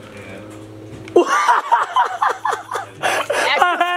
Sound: laughing

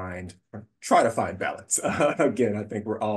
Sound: laughing

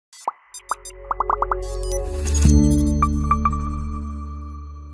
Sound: digital tone chimes

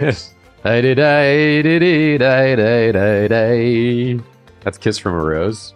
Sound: humming

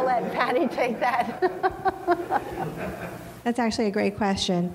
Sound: crowd laughing

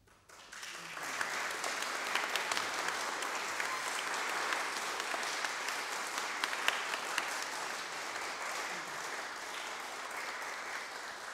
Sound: applause

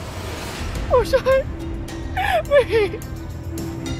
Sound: sobs

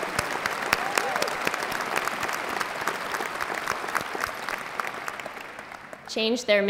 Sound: applause

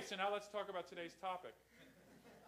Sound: laughter

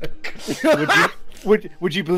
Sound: laughter

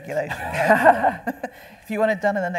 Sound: panel laughing

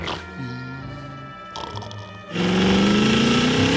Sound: snoring; car engine racing

